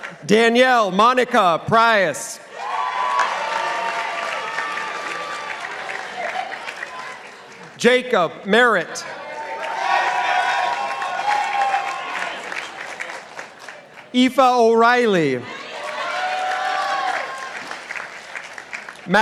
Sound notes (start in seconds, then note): 2.6 participants applauding; 9.1 participants applauding; 15.5 participants applauding